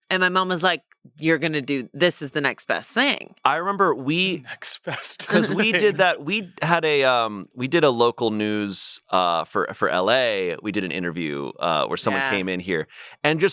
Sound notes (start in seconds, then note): 4.4 laughs